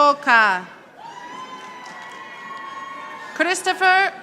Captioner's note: audience applauding